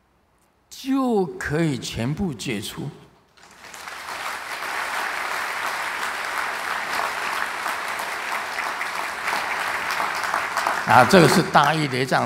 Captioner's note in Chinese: 眾鼓掌